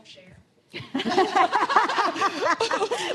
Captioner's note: laughter